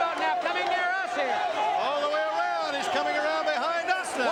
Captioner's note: crowd cheering